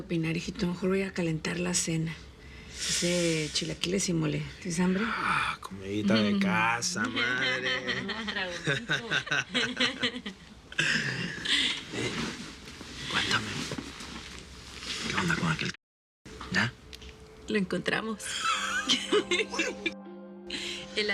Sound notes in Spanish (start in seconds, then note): 7.0 Risas; 18.2 Risas